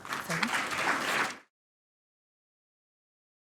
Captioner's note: applause